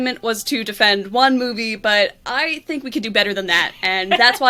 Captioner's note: laughs